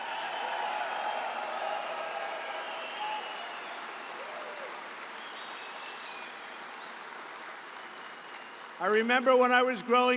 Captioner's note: applause